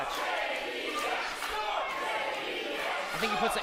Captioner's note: crowd